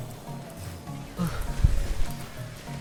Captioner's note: sigh